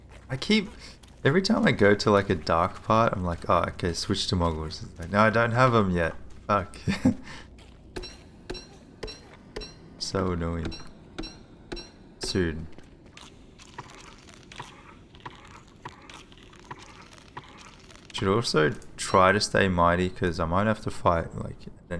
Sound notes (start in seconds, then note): 6.7 chuckles; 12.2 repeated crunching and burping